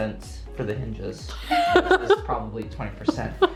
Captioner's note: laughing